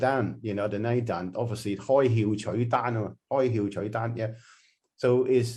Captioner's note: Cantonese